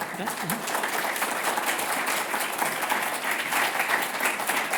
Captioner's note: applause